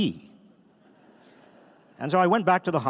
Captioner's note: audience laughing